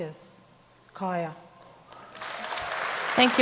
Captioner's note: speaks native language; audience applauds